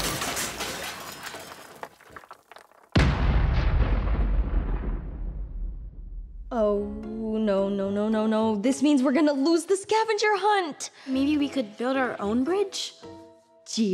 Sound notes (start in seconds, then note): 3.1 crashing